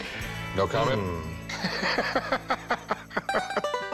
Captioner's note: laughs